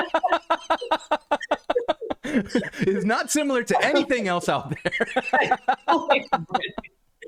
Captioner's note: laughter